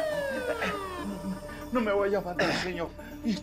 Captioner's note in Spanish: Sirenas sonando afuera